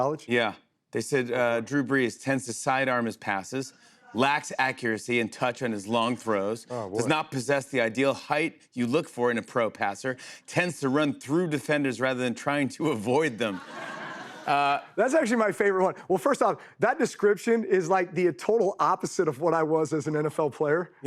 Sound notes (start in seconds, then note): 13.3 laughter